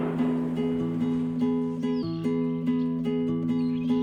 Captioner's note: birds chirping; gentle acoustic guitar music